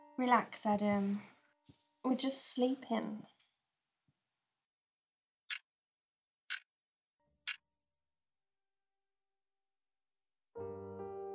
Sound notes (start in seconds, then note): 5.4 clock ticking; 10.5 slow, melancholy piano music